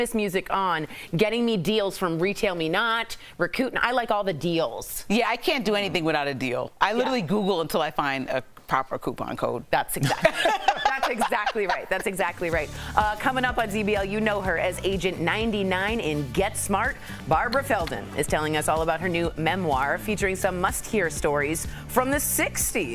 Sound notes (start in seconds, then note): 13.0 laughter